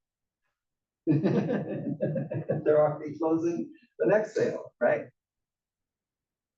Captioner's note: laugh